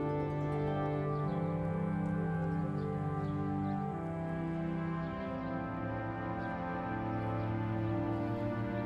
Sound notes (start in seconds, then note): 2.3 birds chirping; 2.3 gentle music